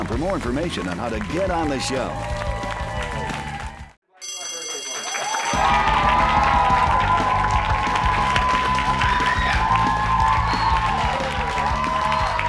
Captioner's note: cheers and applause